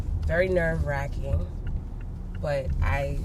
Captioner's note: none